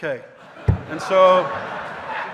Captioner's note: audience laughing